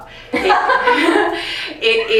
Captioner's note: both laughs